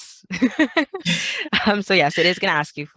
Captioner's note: laughing